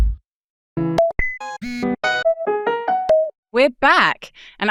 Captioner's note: drum thumping; melodic digital trilling